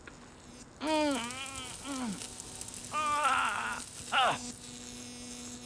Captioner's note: groans; sizzling